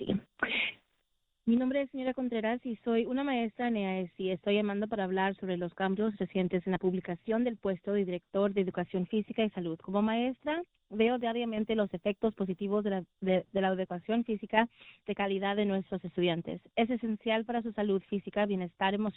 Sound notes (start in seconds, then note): 4.4 speaking spanish